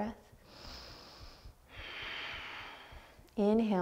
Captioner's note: deep breathing